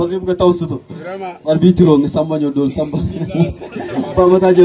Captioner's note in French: rire